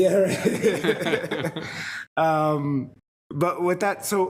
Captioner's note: people laughing